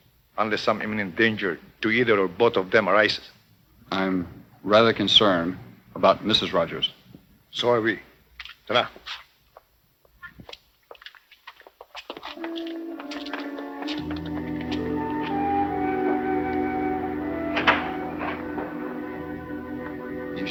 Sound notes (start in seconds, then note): 8.7 speaking in foreign language; 12.3 deliberative orchestral music; 17.3 clattering